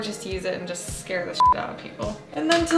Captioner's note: beep